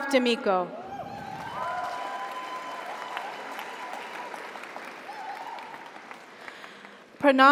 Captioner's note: audience cheers; audience applauds